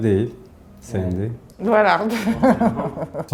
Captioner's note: laughs